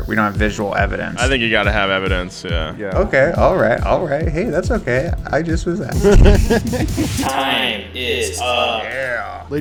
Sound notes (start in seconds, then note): 5.8 laughs